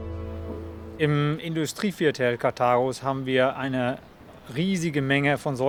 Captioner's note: speaking in foreign language